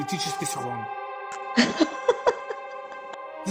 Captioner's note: laughter